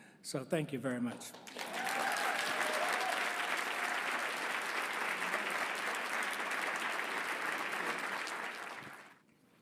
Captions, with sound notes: So thank you very much. (audience cheering and applauding)